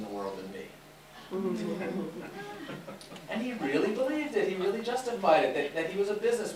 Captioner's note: audience mummers